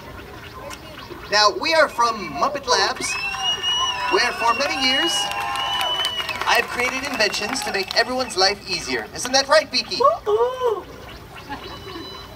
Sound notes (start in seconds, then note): 0.1 machine noises; 3.0 audience cheers; 11.4 laughter